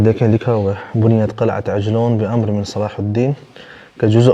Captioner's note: Arabic